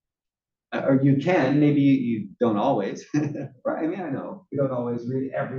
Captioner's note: laugh